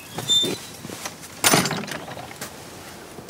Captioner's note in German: Lautes Scheppern